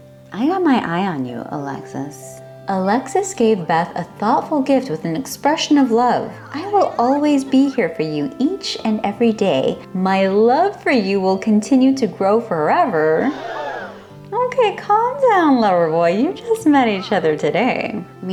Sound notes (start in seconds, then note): 13.2 crowd gasp sfx